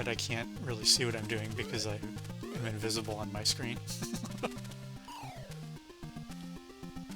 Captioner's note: laughs